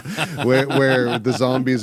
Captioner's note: laughing